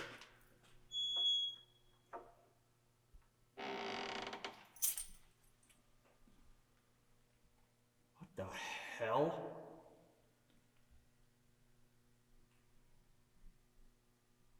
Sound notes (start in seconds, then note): 0.1 door clicks; 0.1 door creaking; 4.7 keys clang